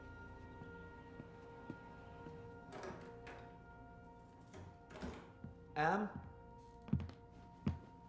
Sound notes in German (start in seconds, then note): 2.5 tür wird geöffnet, schlüsselklimpern, tür wird geschlossen